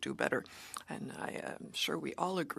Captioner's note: speaking French